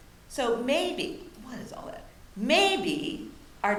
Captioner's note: mutters